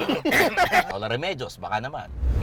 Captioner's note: coughs